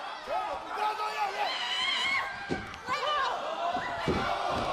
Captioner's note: crowd chatter